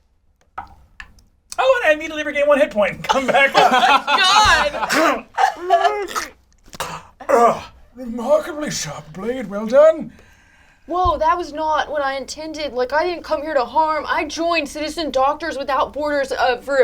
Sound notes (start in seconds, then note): 5.4 all laugh; 6.8 grunting